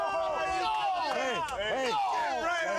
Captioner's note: crowd cheering